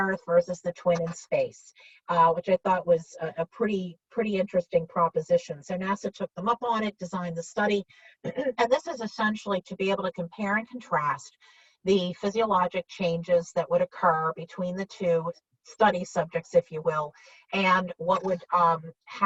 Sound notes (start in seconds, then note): 8.2 clears throat